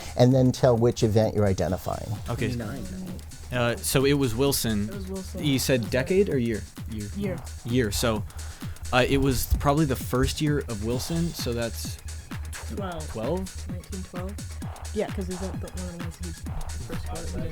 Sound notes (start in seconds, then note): 2.3 whispering